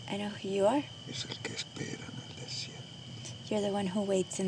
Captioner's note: speaking spanish